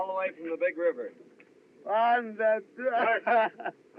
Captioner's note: Lopez Mutters, Laughs